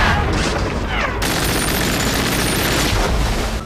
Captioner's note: soldiers yelling; gunfire